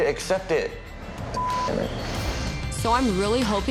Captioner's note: beep